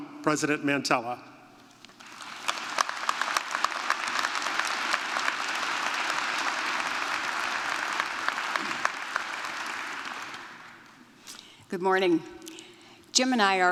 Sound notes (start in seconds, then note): 10.0 applause